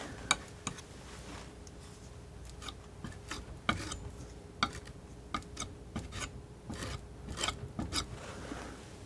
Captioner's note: scratching